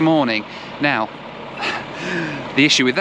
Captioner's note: laughs